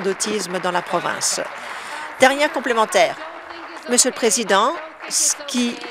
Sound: applause

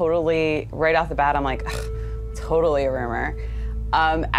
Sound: scoffs

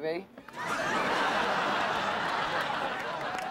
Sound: laughter

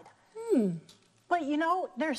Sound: humming thoughtfully

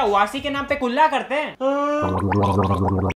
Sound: yawns

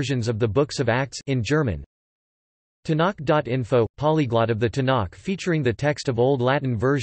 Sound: in German

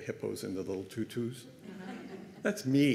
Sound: laughter

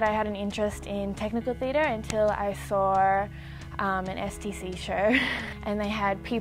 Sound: laughs

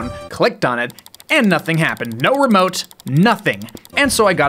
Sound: incessant clicking

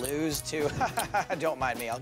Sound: laughter

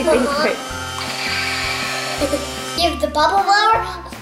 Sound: toy laser gun sound effects

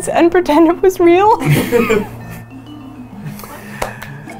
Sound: laughing

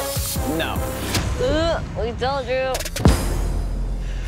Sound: groans

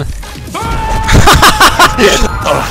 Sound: scream

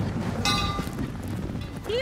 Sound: bell clangs

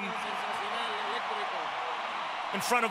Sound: speaking Spanish

